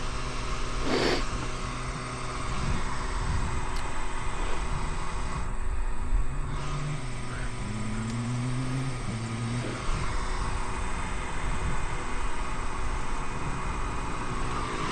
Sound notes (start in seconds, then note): 2.6 engine roaring